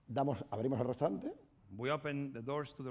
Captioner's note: speaking spanish